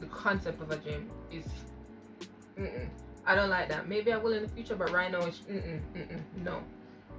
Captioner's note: mm mm